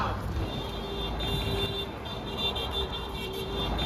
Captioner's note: cars honking